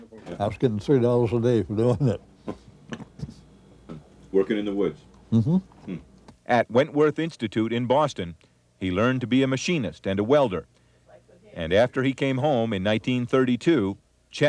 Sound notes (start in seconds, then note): 1.8 Don chuckles